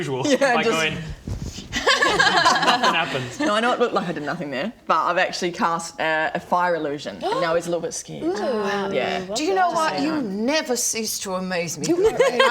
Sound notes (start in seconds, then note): 1.8 laughs